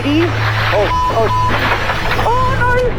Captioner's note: beep